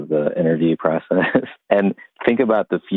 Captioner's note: laughs